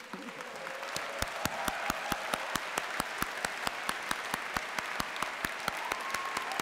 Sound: applause

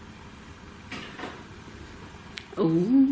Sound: click

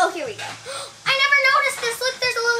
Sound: gasps

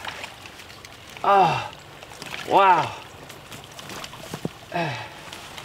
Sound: groans

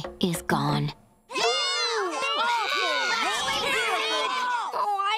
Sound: all booing

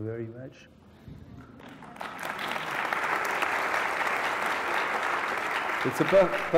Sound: applause

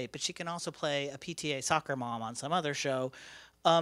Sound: none

